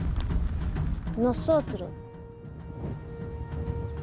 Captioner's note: speaking Spanish